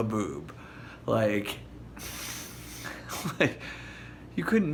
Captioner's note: chuckle